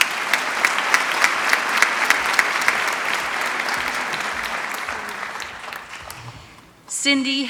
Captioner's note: applause